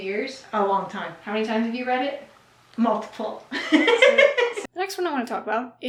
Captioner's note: mom laughs